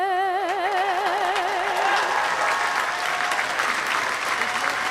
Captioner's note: audience applauding